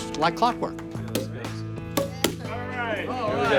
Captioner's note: corks popping